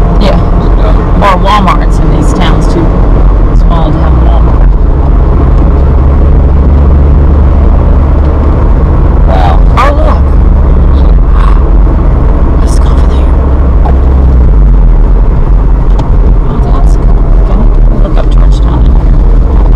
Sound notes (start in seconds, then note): 13.7 car revving